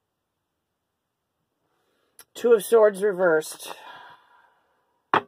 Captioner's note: exhale